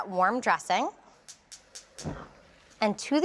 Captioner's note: burner clicking